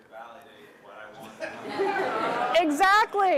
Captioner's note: laughter